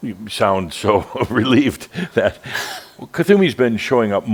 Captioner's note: Adamus chuckles